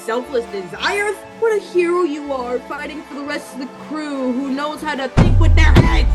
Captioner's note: mocking